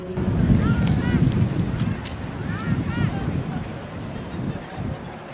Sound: children chattering faintly

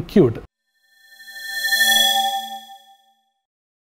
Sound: swoosh

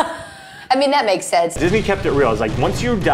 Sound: laughs

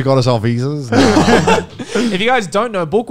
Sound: continue laughing

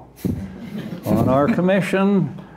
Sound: laughter

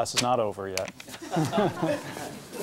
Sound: laughing

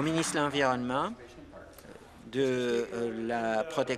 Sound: applause

